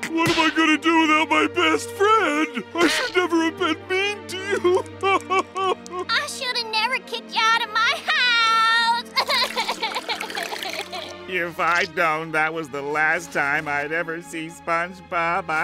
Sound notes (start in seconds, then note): 5.0 sobbing; 9.1 sobbing